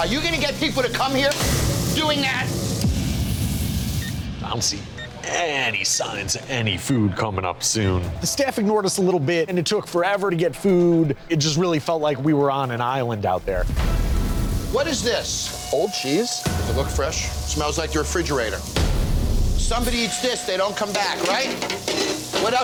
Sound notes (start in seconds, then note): 4.9 timer beeping; 18.5 dramatic suspenseful music